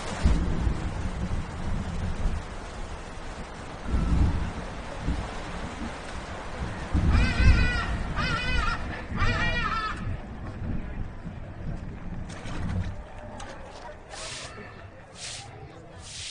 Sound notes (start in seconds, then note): 0.1 sprinkling rain; 6.8 sprinkling rain; 12.2 water sloshing